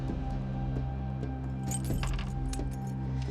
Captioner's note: keys jangling